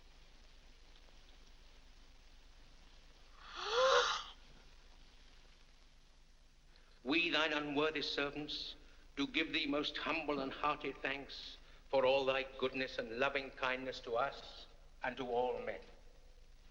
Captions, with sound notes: (gasps) - We Thine unworthy servants, do give thee most humble and hearty thanks for all Thy goodness and loving kindness to us and to all men.